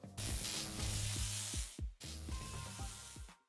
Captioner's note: electric buzz